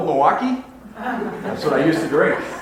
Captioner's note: audience laughs